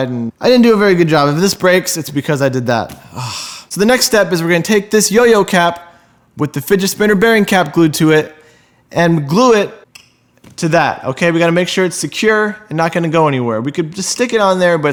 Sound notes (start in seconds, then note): 2.9 sighs